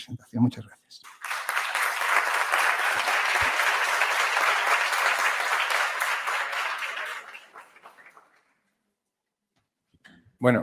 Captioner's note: applause